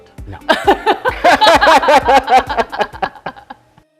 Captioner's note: laughing